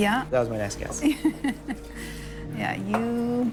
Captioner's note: Ryann laughing